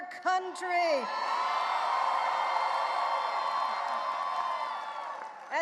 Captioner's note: audience cheering and applauding